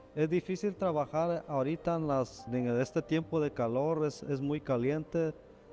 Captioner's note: speaking in Spanish